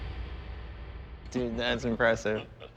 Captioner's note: chuckles